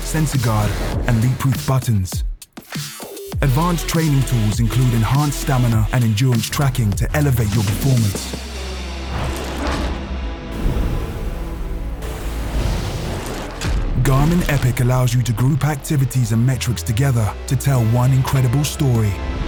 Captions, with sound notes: sensor guard and leakproof buttons. Advanced training tools include enhanced stamina and endurance tracking to elevate your performance. (ocean waves splashing) Garmin Epic allows you to group activities and metrics together to tell one incredible story.